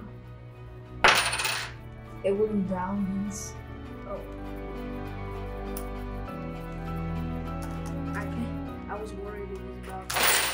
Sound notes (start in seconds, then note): 2.7 coins dropping